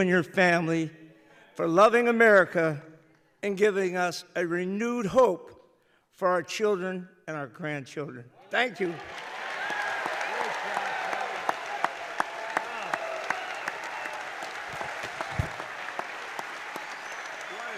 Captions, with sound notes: family for loving America and giving us a renewed hope for our children and our grandchildren. Thank you. (applause) The President: What a great job.